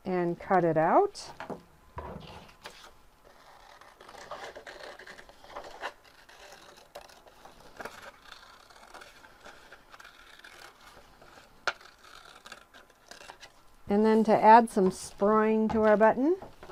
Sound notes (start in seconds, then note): 3.2 paper rustling